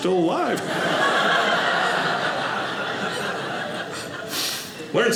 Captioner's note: audience laughing